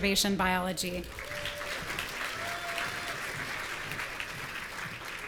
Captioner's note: audience cheering